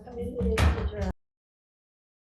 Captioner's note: gavel bangs; silence